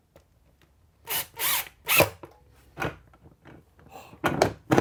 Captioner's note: drill whirring